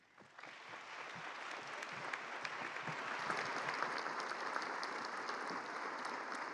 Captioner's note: applause